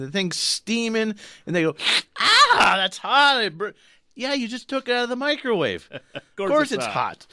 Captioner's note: slurp noise